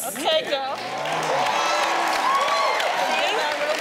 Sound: audience clapping

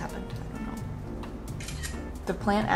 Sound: camera clicks

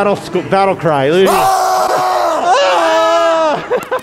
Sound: screaming; hollering; others screaming

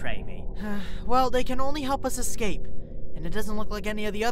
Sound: pinkie sighs

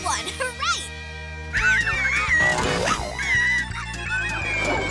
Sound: squeaking

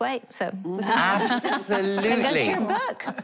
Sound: laughing

